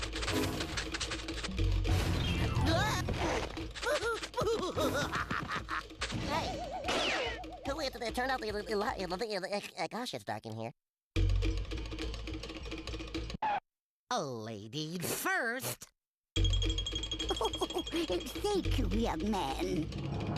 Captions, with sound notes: [Porky grunts] [laughing] [Porky stuttering] WHO TURNED OUT THE LI-- GOSH, IT'S DARK IN HERE. OH, LADIES FIRST. [giggles] THANK YOU, YOUNG MAN.